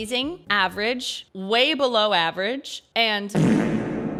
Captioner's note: reverb fart